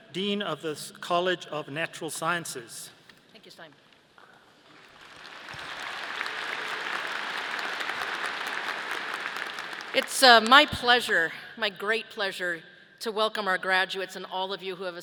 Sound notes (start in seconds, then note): 4.7 audience applauding